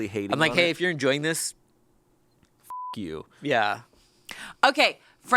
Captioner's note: beep